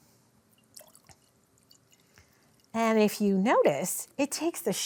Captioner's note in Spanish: agua salpicando ligeramente